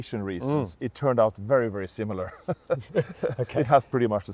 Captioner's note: laughs